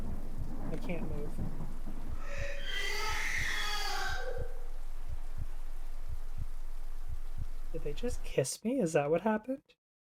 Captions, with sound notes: i can't move (ghostly screaming) Did they just kiss me? is that what happened?